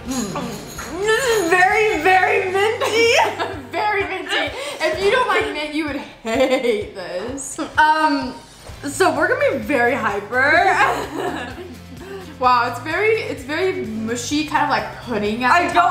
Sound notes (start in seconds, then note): 2.5 laughs; 10.8 laughs